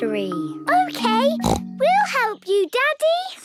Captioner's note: snorts